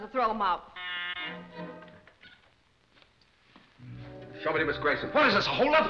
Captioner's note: doorbell ringing